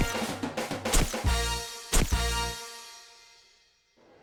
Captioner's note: camera shutter clicks